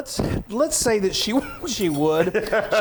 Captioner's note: laughing